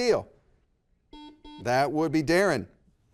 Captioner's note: buzzer beeps